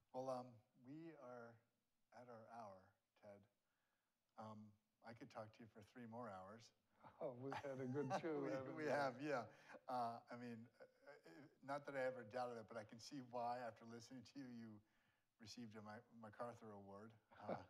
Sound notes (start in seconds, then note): 7.3 laughs; 17.4 laughs